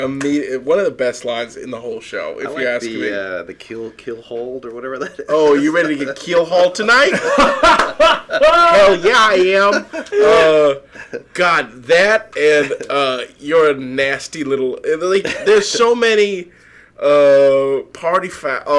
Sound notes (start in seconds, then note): 7.3 laughing